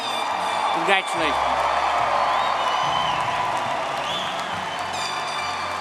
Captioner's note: everyone cheering